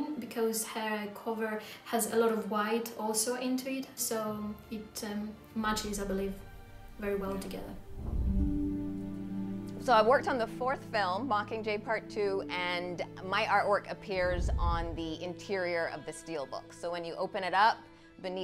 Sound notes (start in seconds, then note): 7.8 scene whooshing; 8.1 pensive music